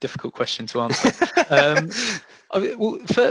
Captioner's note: laughs